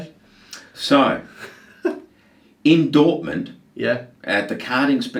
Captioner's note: laughs